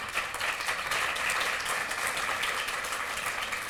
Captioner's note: applause